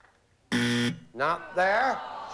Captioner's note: buzzer